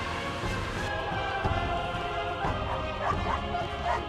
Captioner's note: dogs barking